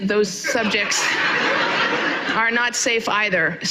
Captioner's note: audience laughing